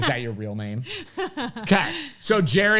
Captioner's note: laughs